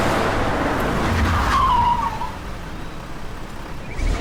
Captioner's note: brakes squeal